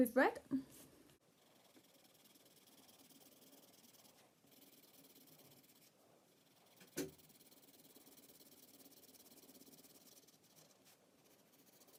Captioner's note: scribbling